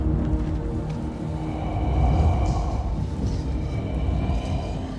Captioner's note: raspy breathing